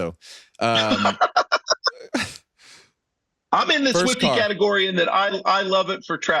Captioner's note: laughing